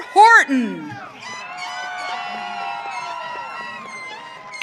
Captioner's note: audience cheering